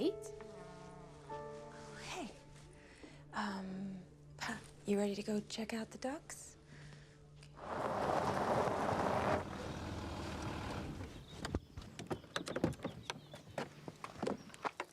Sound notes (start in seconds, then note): 7.5 engine rumbling; 8.7 birds chirping